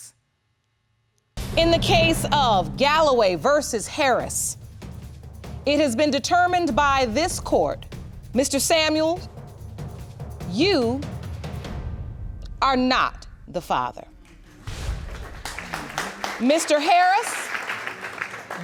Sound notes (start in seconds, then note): 14.2 audience applauding